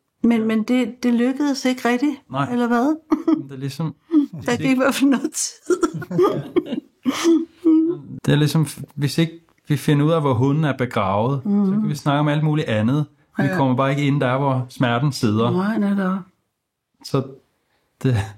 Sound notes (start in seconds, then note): 5.6 chuckles